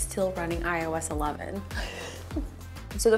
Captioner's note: laughs